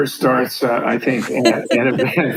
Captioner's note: laughs